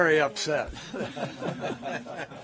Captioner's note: laughter